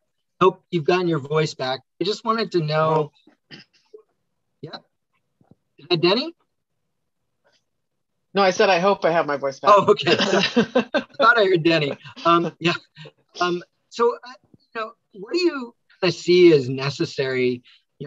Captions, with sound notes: Hope you've gotten your voice back, I just wanted to know... Hey Donny. - No, I said, I hope I have my voice back (laughs). - Oh, okay, I thought I heard Donny. Yeah, so I'd like to know what do you see as necessary?